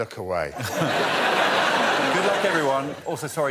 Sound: audience laughing

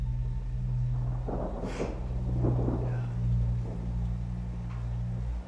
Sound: thunder rumbles; dramatic music

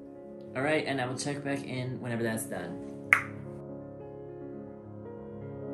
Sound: tongue pop

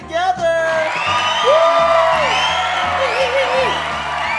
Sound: crowd cheers

